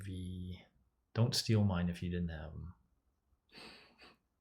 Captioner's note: laughs